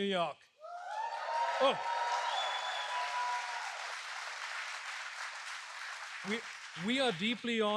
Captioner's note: applause